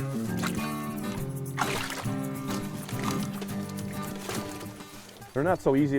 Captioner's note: fish flopping